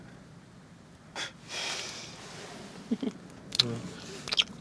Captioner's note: laughs